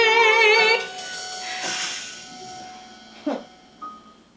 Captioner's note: spell fizzles and dies